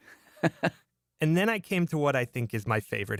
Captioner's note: laughs